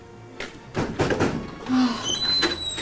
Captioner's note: pounding on door